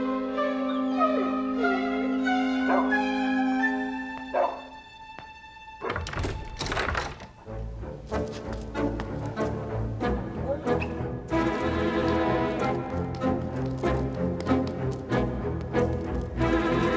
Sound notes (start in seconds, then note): 0.8 mr. twixel whimpers